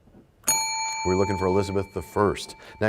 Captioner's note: bell rings, time expires